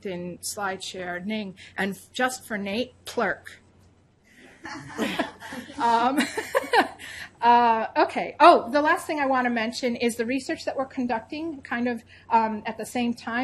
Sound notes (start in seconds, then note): 4.5 laughing